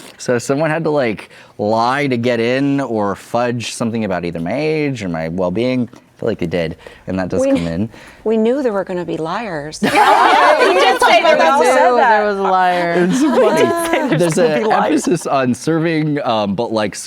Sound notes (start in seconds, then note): 9.8 everyone laughs